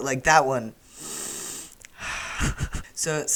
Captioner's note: deep breath